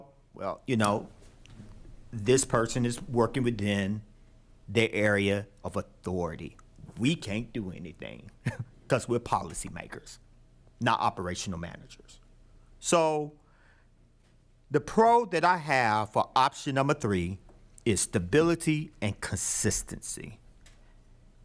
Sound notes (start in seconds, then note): 8.4 chuckles